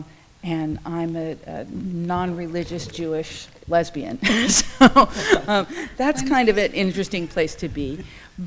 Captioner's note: laughs